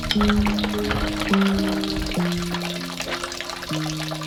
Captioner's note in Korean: 그릇끼리 달그락 거리는 소리